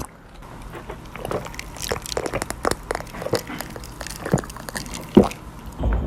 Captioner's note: gulp gulp gulp; louder gulp; sluuuuuurp